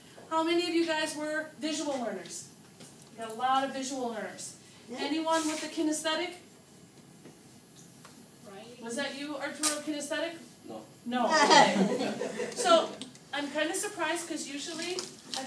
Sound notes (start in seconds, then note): 11.4 students laugh